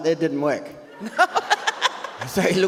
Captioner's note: audience laughs